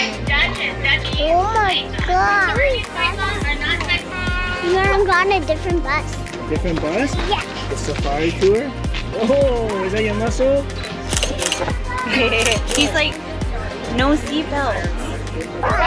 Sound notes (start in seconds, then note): 11.1 camera shutter sound effect